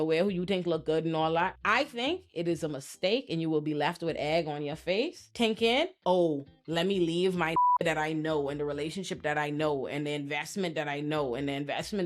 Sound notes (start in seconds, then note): 7.5 beep